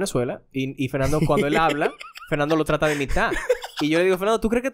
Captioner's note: laughs